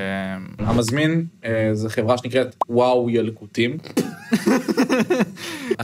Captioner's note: laughs